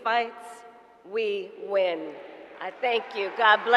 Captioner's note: applause